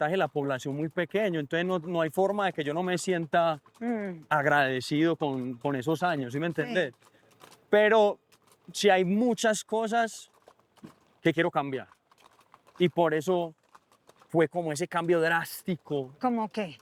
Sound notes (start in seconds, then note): none